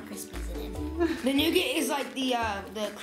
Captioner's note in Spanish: Mamá se ríe